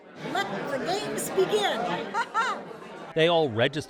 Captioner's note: laughs